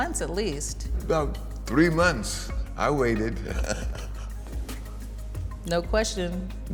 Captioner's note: laughs